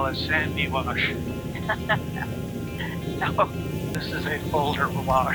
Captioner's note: laughing